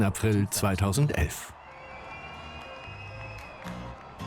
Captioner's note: crowd cheering; upbeat music